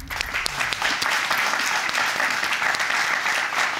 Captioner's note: audience applauding